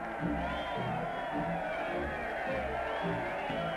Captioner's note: cheering